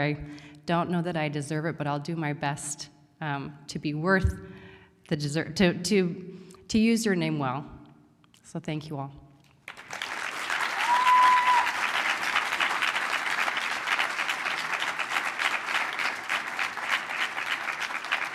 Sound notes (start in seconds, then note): 9.6 applause